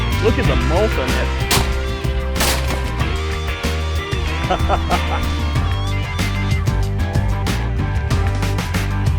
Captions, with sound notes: Look at the bulk on that. (laughter)